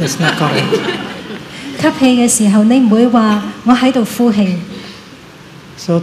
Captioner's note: laughter